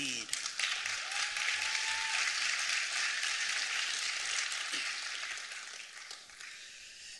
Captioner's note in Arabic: تـصـفيق